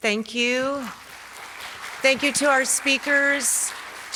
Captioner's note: audience claps